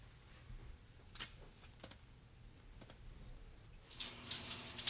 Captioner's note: keyboard clicks; water splashes